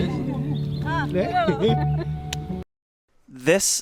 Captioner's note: people chatter indistinctly